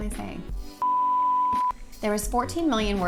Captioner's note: beep